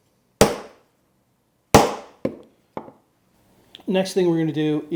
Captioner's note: hammer pounds